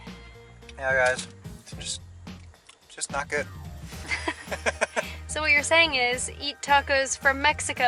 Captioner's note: laughs